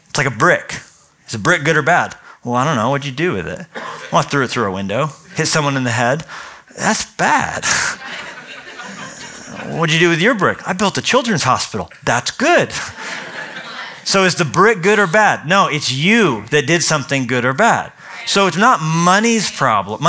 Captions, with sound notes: It's like a brick. Is a brick good or bad? Well, I don't know. What'd you do with it? Well, I threw it through a window, hit someone in the head. That's bad. [LAUGHTER] What'd you do with your brick? I built a children's hospital. That's good. So is the brick good or bad? No, it's you that did something good or bad. So it's not money's problem.